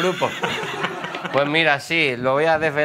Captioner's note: laughter